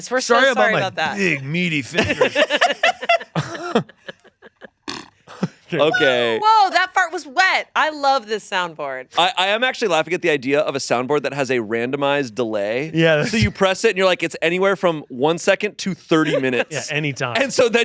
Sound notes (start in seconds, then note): 2.0 laughing; 4.8 imitates farting